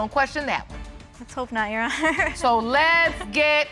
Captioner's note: chuckles